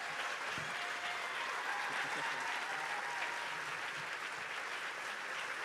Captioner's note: audience applauding